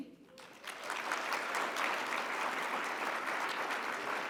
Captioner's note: audience applauds